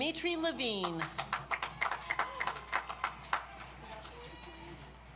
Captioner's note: audience applauds